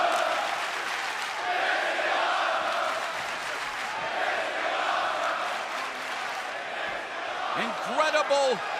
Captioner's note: crowd cheering